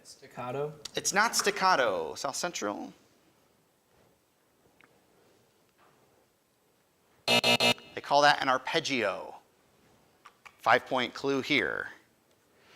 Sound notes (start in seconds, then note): 7.2 alarm buzzes